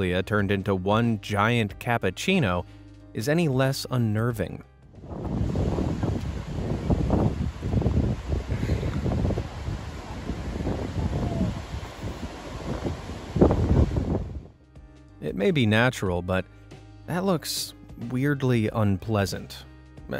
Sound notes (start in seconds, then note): 4.5 wind rustling